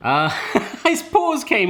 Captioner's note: laughing